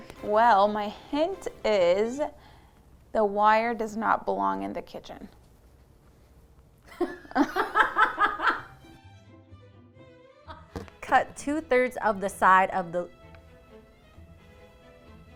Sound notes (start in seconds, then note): 6.9 laughs